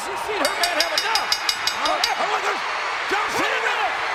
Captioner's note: bell ringing; audience cheering